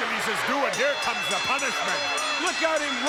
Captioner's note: bell rings